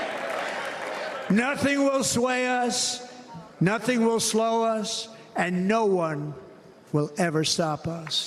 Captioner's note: cheers and applause